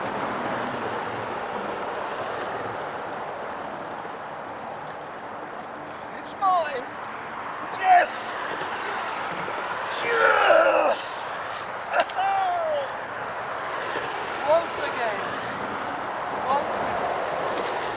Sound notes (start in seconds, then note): 11.9 laughter